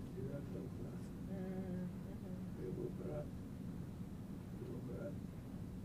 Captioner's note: mumbling